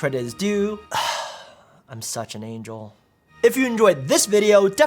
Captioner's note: sighs